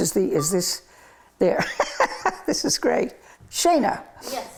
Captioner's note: laughs